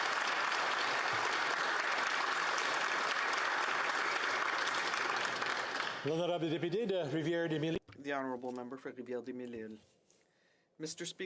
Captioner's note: applause